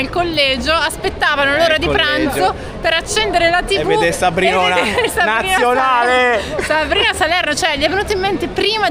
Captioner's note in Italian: risate